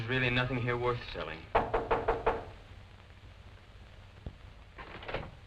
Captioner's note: knock on door